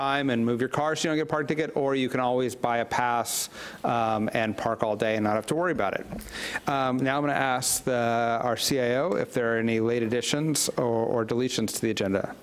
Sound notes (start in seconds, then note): none